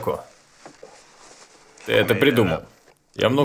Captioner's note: laughing